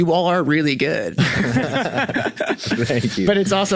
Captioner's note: group laughs